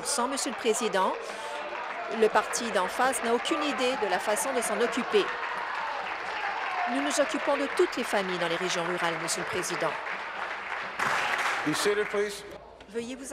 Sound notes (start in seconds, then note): 8.3 applause